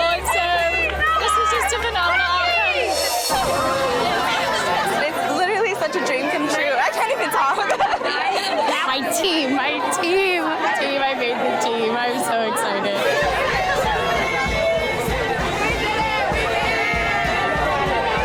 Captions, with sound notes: and so, this was just a phenomenal outcome. (women cheering) (upbeat music) - It's literally such a dream come true. I can't even talk. (laughs) - Now my team, my team, my team. I made the team, I'm so excited. (women cheering) (upbeat music)